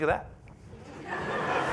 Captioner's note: laughter